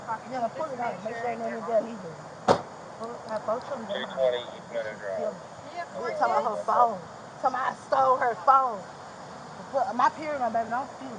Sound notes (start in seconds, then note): 3.7 radio chatter